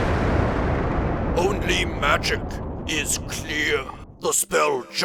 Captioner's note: fantastic explosion